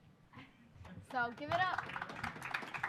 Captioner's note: applause